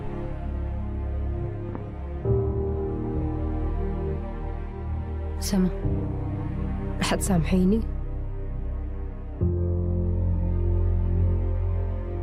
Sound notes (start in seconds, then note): 3.3 narrator speaking in foreign language